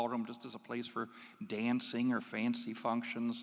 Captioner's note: none